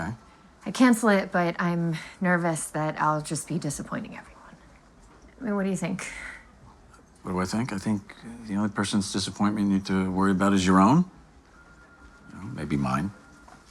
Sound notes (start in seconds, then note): none